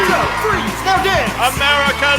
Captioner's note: rapturous cheers